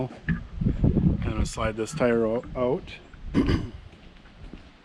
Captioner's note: clears throat